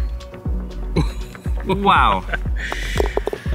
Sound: laughs

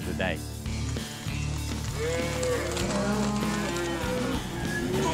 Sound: hoof beats, mooing

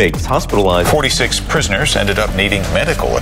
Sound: voiceover

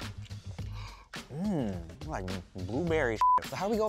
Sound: beep

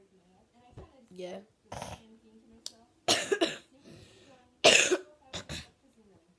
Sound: clears throat; cough; snorts

